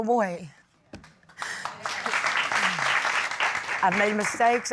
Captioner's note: crowd applauding